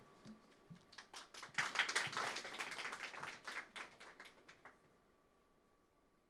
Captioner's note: applause